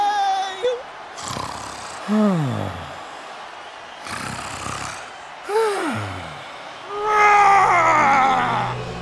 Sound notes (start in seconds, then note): 1.1 Skarra snoring